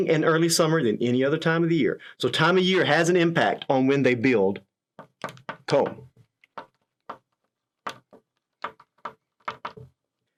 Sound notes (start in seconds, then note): 7.7 pen tapping